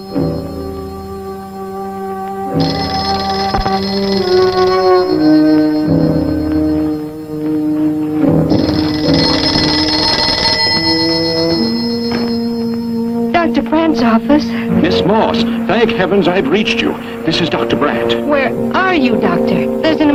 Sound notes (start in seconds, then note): 0.2 phone ringing; 6.4 worrying music; 8.2 phone ringing